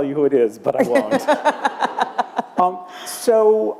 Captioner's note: laughter